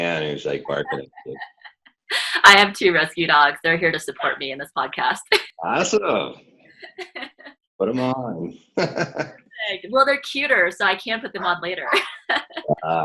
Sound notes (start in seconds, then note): 0.0 laughing; 5.6 laughing; 8.7 laughing; 11.1 laughing